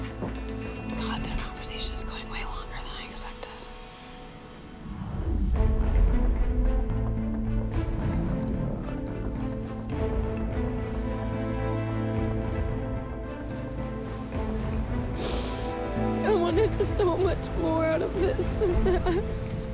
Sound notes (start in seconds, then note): 4.8 suspenseful music; 15.2 sniffles